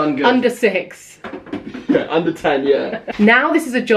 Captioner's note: laughs